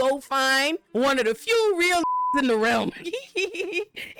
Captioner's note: beep